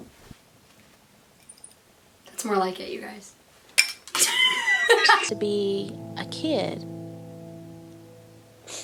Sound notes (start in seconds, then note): 4.2 laughs